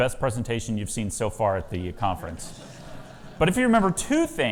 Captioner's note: audience laughs